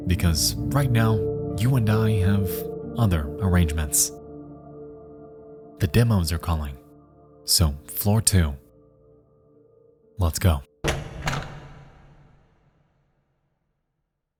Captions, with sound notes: because right now, you and I have other arrangements. The demos are calling. So floor two, let's go. (door closes)